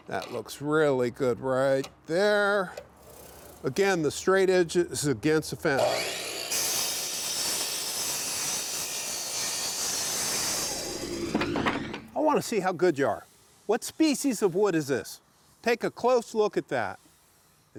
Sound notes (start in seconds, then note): 5.7 saw whirring loudly